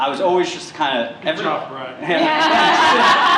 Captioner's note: laughter